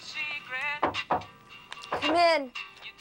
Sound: mother knocks

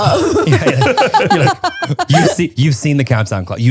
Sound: everyone laughs

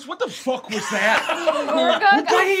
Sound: gasping

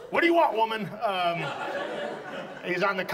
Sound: audience laughs

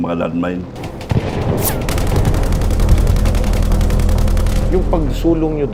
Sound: machine guns fired, bomb exploded

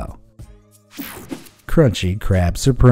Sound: image whooshing

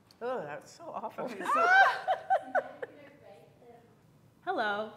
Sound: laughing

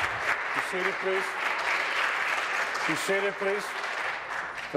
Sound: applause

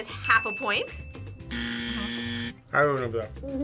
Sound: buzzer

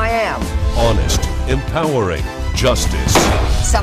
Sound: gavel Bangs

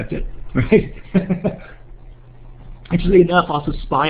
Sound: laughs

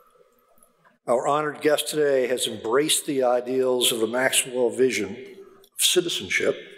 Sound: none

